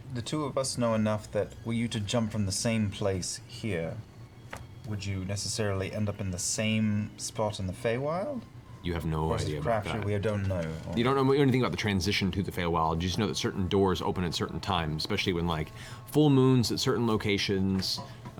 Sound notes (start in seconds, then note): none